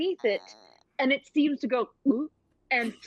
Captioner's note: gulps